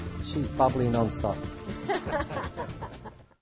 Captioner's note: laughter